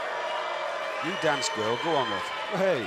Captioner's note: crowd cheering